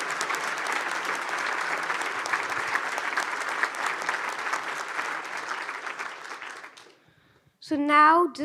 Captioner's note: audience applauds